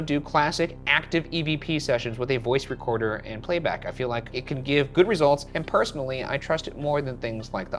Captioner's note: none